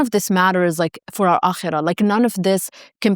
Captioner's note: speaking foreign language